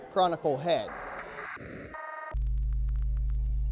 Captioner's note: computer static beeping; soft music